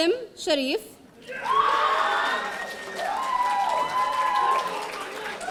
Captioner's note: audience cheering